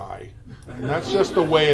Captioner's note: attendees laugh